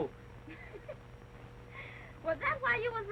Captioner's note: chuckles